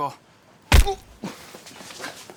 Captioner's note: head blows